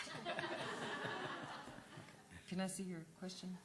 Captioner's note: laughter